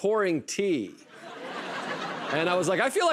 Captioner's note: laughter